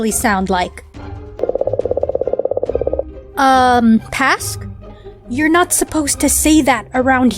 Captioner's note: alien noises